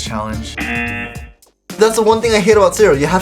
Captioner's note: buzzer rings